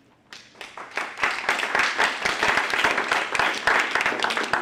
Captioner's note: applause